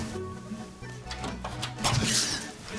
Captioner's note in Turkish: Kapı açıldı